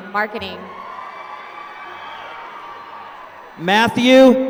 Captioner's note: applause